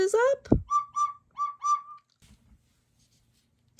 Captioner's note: owl hoots